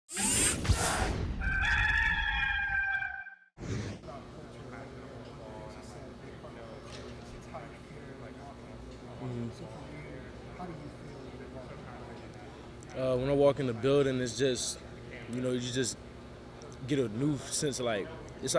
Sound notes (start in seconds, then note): 0.1 mechanical whirring; 1.4 roaster crowing; 4.2 faintly speaking; 4.2 group chattering